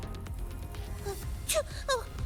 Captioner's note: gasping